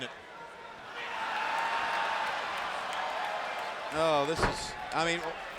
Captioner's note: audience cheers